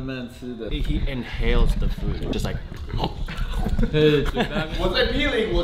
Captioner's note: gulps gulps; Laughs